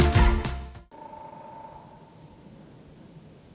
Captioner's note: woodpecker drumming